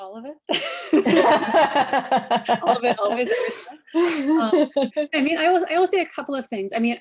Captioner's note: laughter